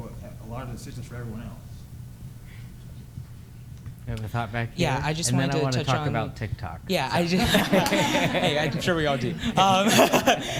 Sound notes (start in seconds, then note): 7.3 laughter